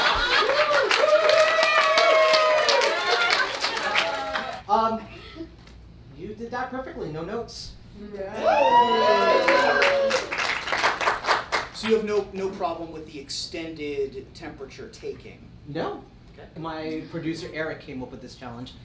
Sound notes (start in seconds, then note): 0.0 audience cheers; 8.3 audience cheers